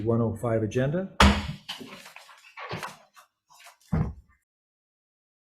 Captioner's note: gavel bangs